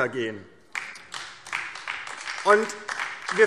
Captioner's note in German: Beifall DIE LINKE